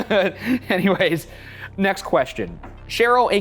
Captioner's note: laughs